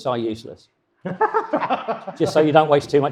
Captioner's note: panel laughs